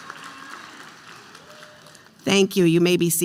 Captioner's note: applause